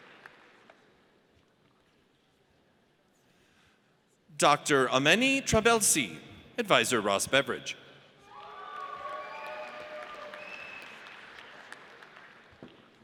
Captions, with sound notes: Dr. Ameni Trabelsi. Advisor, Ross Beveridge. (audience cheers)